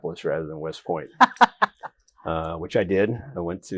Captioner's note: laughs